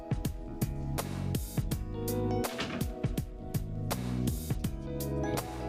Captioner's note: door closes